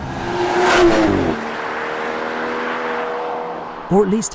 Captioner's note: car zooming